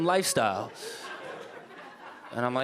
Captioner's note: audience laughing